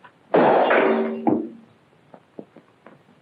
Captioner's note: glass shatters